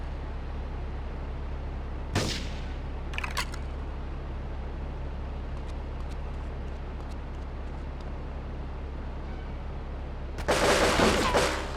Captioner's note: gun firing